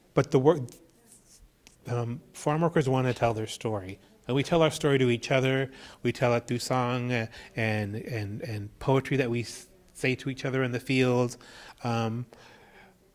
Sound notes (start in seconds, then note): none